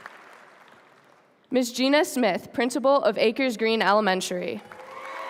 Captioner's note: applause